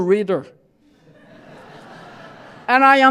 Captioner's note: laughter